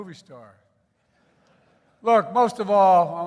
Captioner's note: laughter